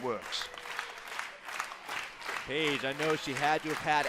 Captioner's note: crowd cheering